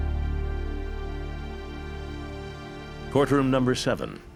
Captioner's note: none